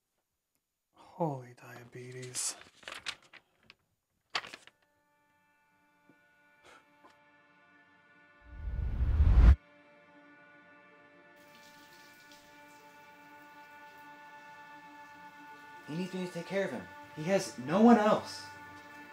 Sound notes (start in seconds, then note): 6.6 reflective music; 11.4 shower sounds